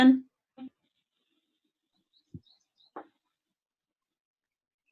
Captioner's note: silence